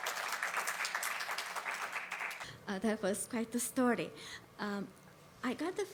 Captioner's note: applause